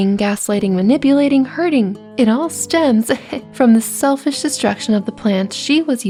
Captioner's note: heh